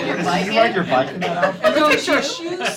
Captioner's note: laughter